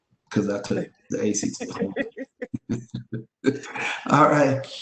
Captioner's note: chuckling